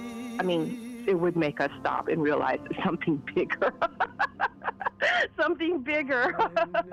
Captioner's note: laughs